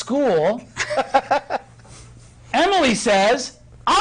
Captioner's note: others laughing